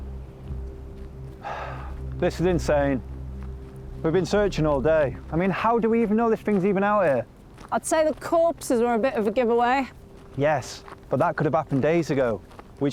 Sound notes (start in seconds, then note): 1.4 sighs